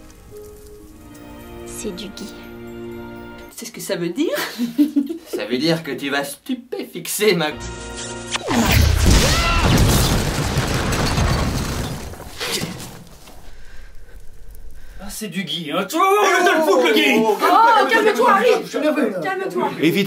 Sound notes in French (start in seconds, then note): 8.2 bruit de bisous